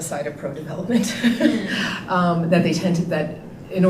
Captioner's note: laughing